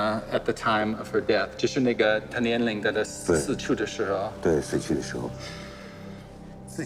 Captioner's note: speaking in foreign language